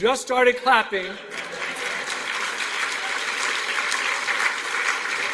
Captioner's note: applause